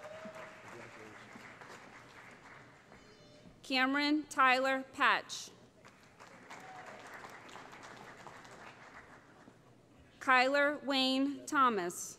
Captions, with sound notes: [ Cheering ] Cameron Tylor Patch [ Applause ] Kyler Wayne Thomas.